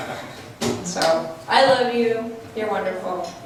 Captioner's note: laughs